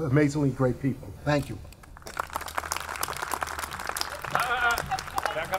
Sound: audience clapping

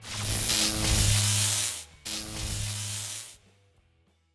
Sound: electric buzz

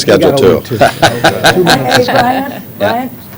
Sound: laughter

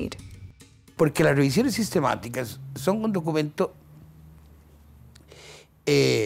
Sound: Spanish

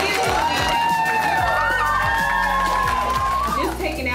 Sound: children cheer and applaud

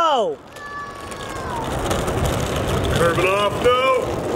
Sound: whirring

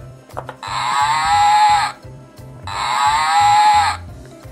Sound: cow Sound

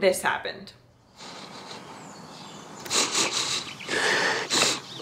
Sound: sniffling

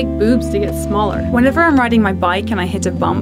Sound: voiceover

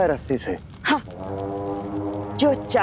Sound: scoffs

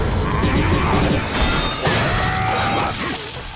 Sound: grunting

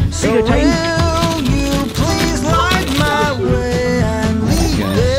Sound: toy rattles

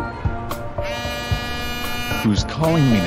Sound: phone buzzing

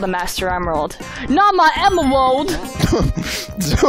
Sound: imitating Knuckles; laughing

